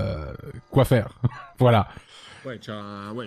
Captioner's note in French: il rit